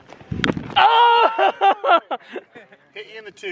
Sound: laughing

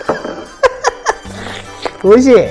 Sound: laughs

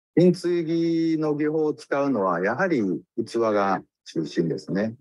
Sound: speaks in Japanese

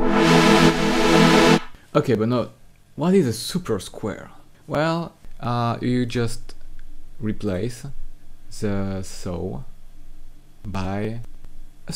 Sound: wave

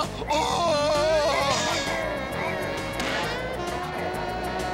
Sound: car growling

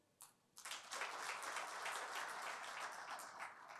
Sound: applause

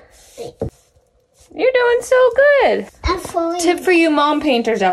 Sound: none

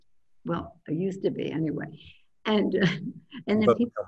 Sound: laughs

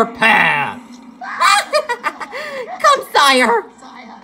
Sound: crazy laugh

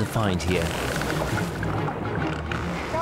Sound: dolphin clicking

